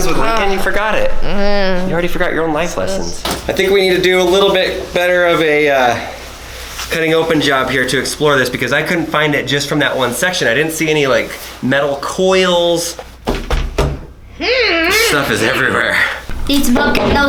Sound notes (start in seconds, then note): 14.4 grunting